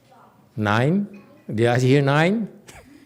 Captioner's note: laughs